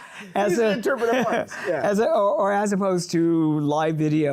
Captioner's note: laughs